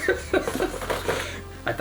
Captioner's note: laughs